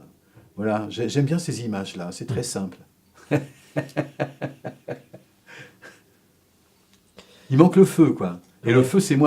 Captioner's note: laughs